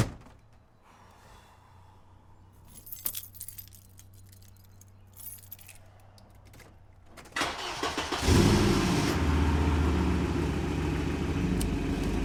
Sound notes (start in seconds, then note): 0.5 exhales; 7.3 engine cranking